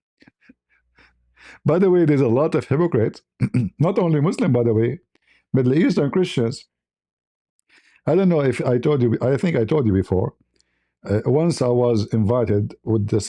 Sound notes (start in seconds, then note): 3.4 berdehem